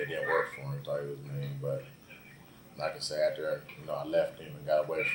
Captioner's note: radio in the background